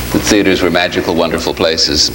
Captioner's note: none